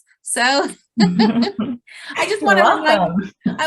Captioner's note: chuckles